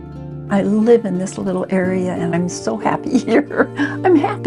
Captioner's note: chuckles